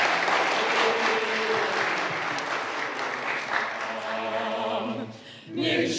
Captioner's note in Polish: oklaski